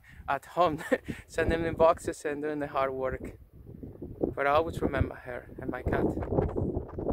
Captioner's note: laugh